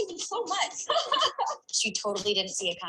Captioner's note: laughing